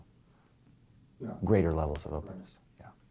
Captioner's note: voiceover